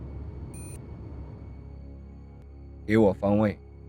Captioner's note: sunglasses beeps; Zhou speaking in foreign language